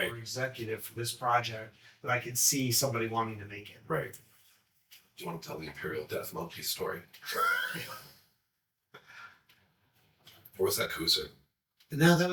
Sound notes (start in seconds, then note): 7.2 chuckling